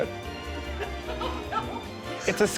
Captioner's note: laughing